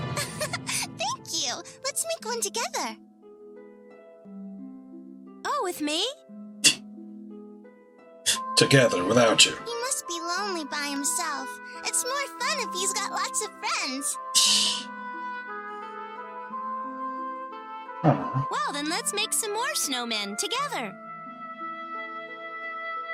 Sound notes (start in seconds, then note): 0.1 chuckling; 6.6 scoffs; 14.3 laughs softly